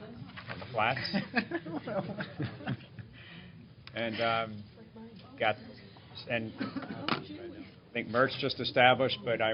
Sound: laughter

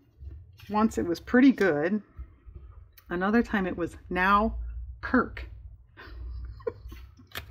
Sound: laughs

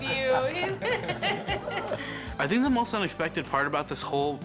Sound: laughing

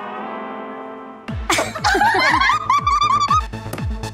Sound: laughing

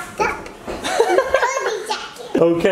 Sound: laughs

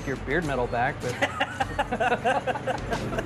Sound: laughing

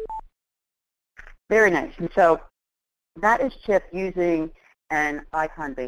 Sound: voiceover

